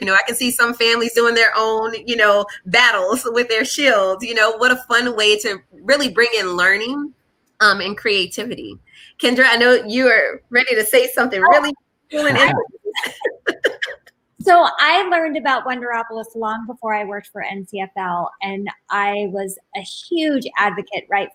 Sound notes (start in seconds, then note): 12.2 laughs